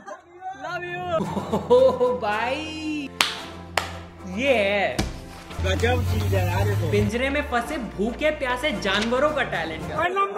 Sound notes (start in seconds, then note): 3.1 slow claps